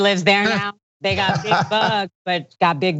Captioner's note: laugh